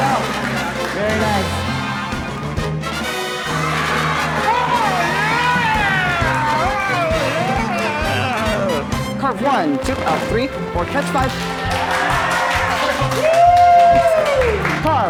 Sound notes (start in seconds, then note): 4.2 onlookers cheering; 12.6 onlookers applauding